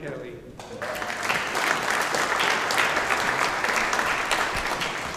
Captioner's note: audience applauding